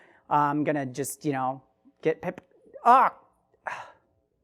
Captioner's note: sighs